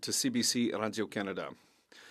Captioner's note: speaking French